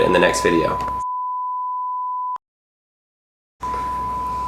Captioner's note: beep; beep